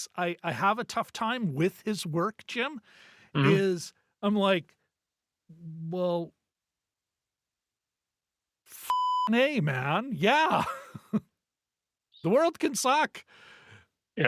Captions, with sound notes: I have a tough time with his work, Jim, is I'm like, well, (beep) man, yeah. (laughs) The world can suck.